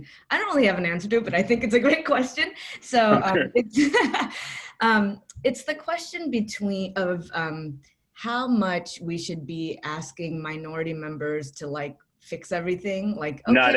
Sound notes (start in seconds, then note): 3.1 laughs